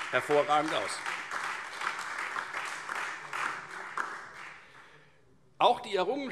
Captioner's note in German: Beifall